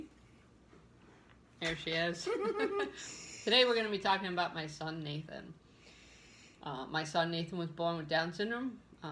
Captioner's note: laughter